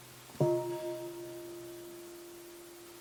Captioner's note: half bell